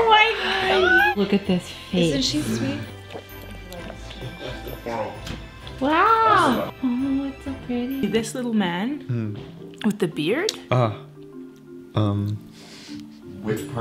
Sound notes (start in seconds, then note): 2.5 puppy slurping; 10.4 investigative music